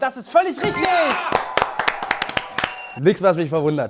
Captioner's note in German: Jubel